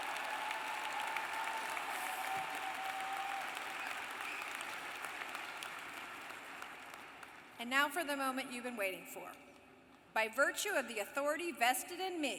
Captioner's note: applause